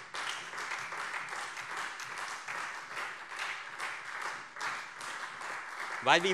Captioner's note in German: Beifall Freie Demokraten und vereinzelt SPD